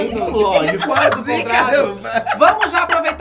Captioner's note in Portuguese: risos